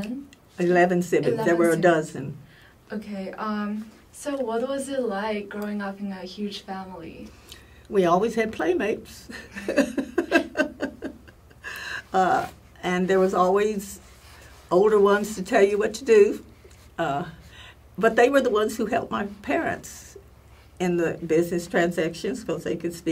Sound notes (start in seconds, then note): 9.3 laugh